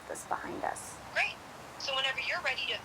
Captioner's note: on phone